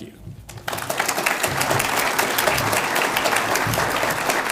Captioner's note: audience applauds